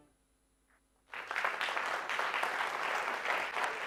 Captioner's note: applause